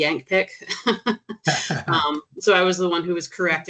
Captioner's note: chuckling